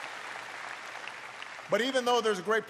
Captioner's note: applause